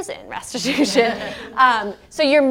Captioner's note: laugh